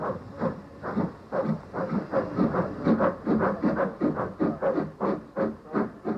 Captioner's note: train passes